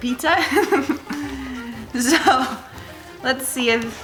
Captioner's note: laughs